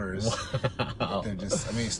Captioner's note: light laughter